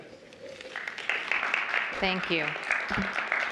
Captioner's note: applause